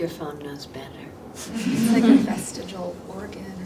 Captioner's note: audience laughing